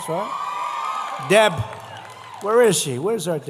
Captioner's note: applause